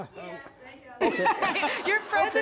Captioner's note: laughter